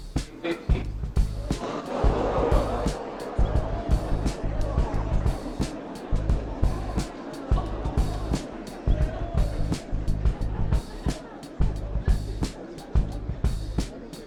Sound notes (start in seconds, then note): 1.2 loud gasps from audience; 10.5 gasps and chatter continue